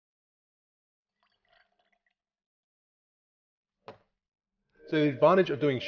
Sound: liquid trickling

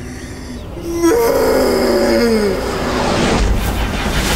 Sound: screams

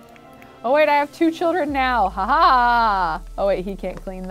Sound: chuckles

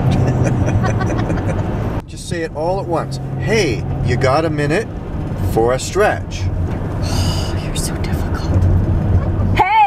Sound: laughter; sigh; laughs; yells

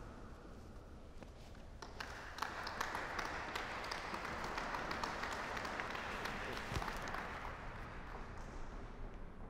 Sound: applause

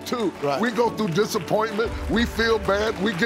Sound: audience clapping

